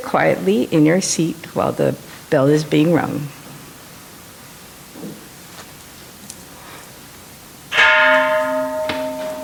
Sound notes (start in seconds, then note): 7.7 temple bell rings